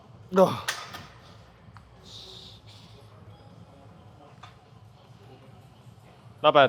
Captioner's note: man groans